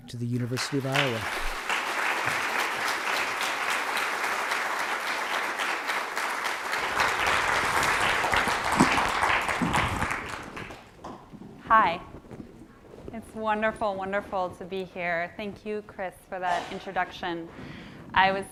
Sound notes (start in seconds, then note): 2.5 audience applauding